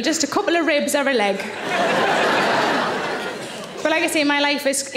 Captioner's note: audience laughing